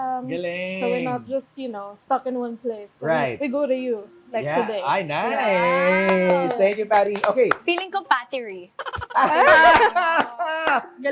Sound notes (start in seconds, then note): 6.0 claps; 8.8 laughs, claps